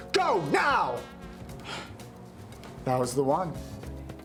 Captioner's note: gasps